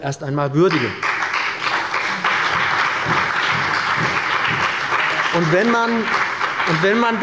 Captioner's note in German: Beifall bei dem BÜNDNIS 90/DIE GRÜNEN und der CDU